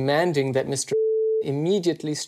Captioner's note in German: Piepton